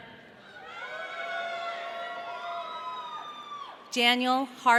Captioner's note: audience cheering